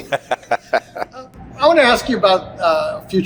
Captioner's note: laughing